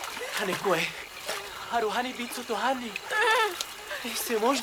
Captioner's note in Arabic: الصوت المنطوق البدوي